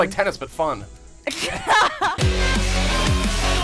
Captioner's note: laughter